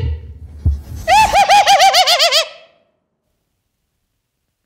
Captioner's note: laughing